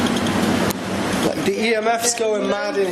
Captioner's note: metre beeping